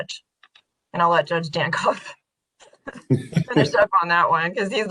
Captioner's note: laughing